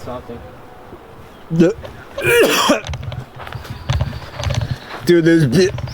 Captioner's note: heaving